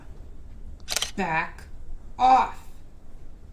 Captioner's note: shutter snaps